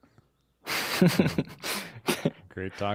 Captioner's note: laughs